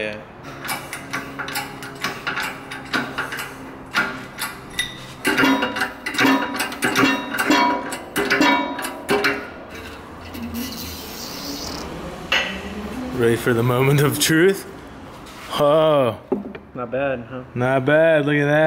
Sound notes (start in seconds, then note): 4.2 clanking Noise